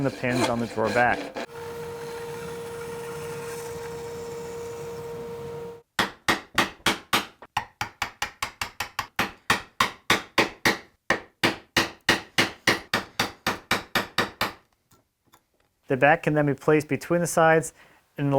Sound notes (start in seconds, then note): 4.2 high-speed saw whirring; 7.5 gentle hammering